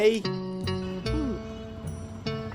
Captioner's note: gulp